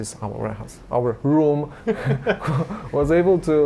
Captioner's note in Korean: 웃음